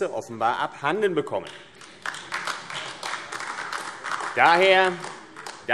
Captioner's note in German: Beifall AfD